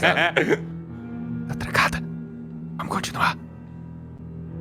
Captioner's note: whispering